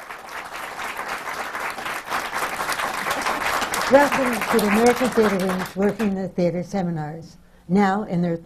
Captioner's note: applause